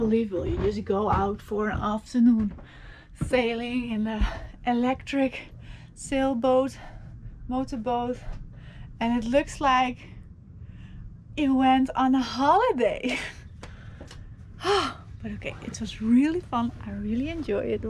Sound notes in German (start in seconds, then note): none